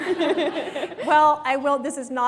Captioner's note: laughter